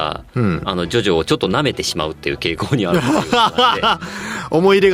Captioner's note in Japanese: 笑い